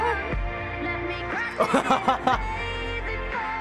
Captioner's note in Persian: خندیدن پسر